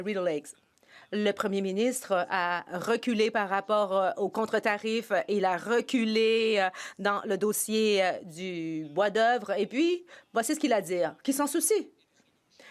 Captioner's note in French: voix de l'interprète